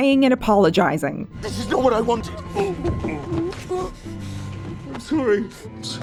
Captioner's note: Gates choking